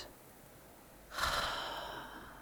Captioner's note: sighing in slight frustration